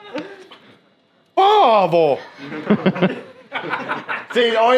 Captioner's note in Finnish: naurua